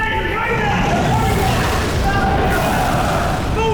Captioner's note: explosion